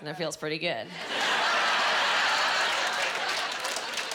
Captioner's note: laughing